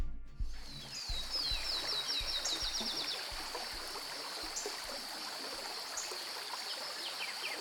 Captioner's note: birds calling; water trickling